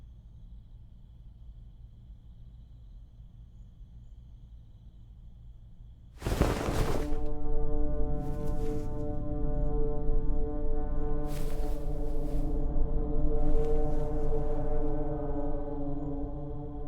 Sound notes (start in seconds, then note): 6.2 blankets rustle; 6.2 quiet, ominous music